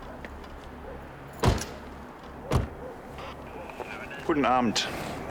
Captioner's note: radio noises